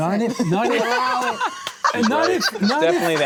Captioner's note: all laugh